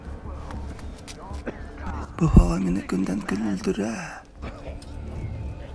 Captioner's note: coughing citizen complains that the toxic air is 'killing him'